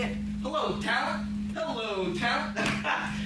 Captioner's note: laughs